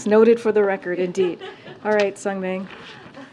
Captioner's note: laughter